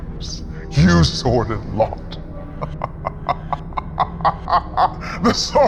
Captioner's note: laughs